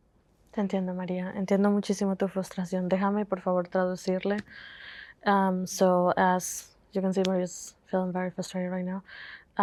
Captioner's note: Spanish